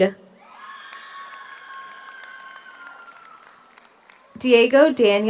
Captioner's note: audience cheers; audience applauds